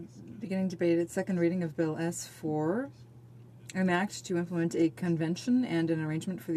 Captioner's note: speaking in french